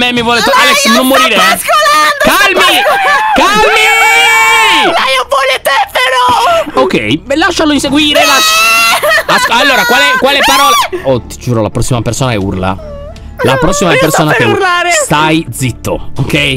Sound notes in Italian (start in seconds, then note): 8.6 urla